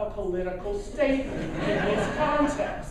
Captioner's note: laughing